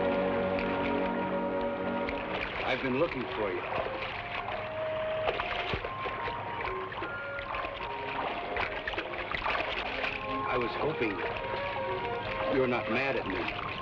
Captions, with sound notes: - I've been looking for you. (water splashes) I was hoping you were not mad at me.